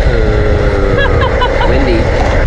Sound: laughs

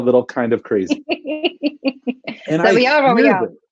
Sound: laughs

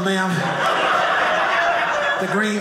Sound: audience laughing

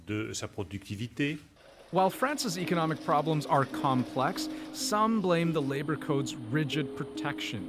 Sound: speaking French

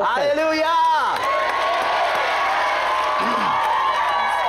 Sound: applause and cheering

